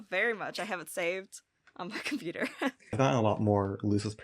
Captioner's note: chuckles